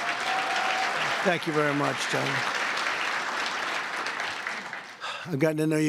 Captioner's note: applause